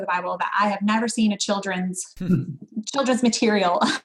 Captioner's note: giggles